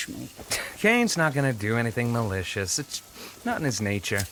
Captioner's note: scoffs; sniffs